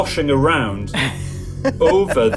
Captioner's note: laughing